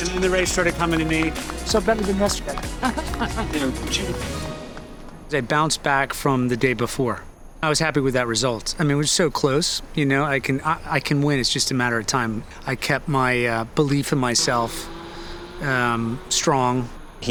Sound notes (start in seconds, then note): 3.0 Dempsey laughing